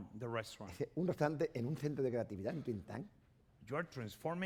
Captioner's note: speaking spanish